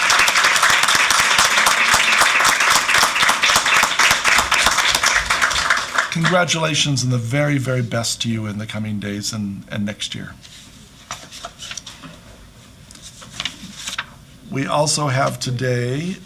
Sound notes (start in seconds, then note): 2.4 applause